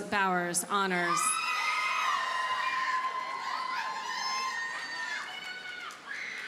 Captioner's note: audience cheers and applauds